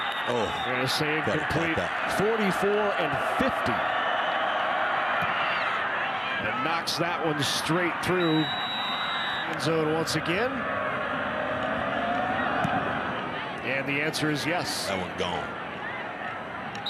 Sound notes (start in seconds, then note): 0.0 referee blows whistle; 8.2 referee blows whistle